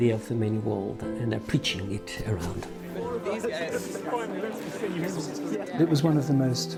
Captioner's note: people chattering